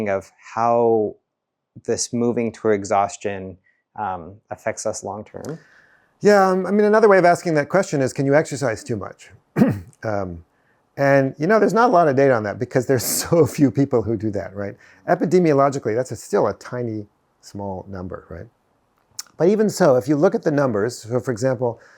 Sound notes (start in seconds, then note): 9.5 clears throat